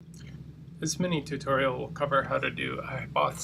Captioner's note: voiceover